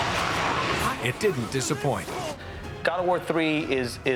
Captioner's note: snarling